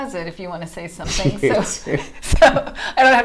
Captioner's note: laughing